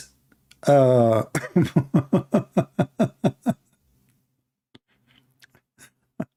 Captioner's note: Ketawa